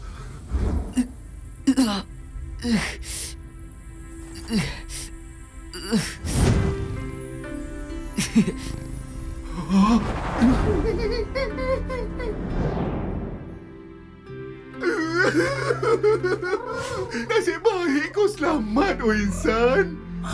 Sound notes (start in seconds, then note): 2.0 quiet breathing; 10.4 sobs being held back